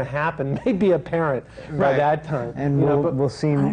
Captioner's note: laughs